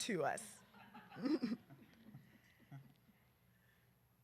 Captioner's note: laughter